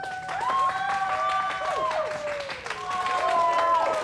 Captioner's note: crowd cheering